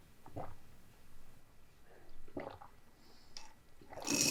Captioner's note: sound of gulping down yogurt; loud sound of sucking up the straw